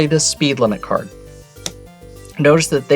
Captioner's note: card slaps